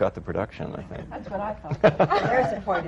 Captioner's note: laughter